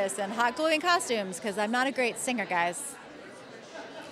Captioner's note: laughs